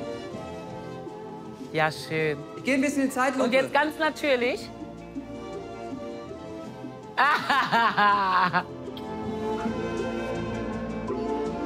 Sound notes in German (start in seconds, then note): 0.0 Getragene Musik; 7.1 Sie lacht